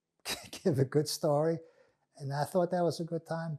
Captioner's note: laughing